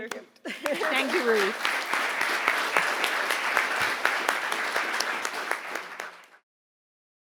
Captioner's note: audience applauding